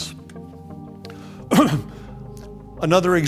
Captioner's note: clears throat